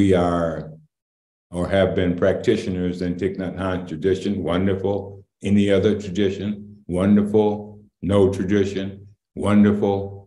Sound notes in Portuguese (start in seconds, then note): none